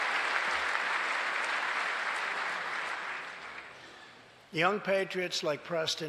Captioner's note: applause